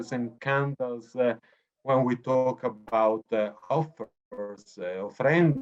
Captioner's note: speaking foreign language